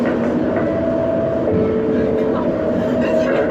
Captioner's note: Skytrain Chime